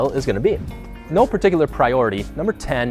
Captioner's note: whoosh